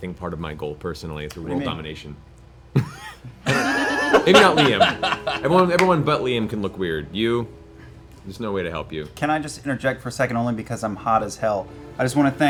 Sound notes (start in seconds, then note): 2.7 laughter